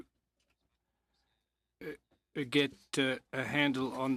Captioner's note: speaking French